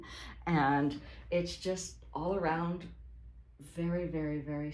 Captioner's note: none